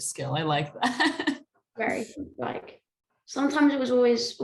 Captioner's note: laughter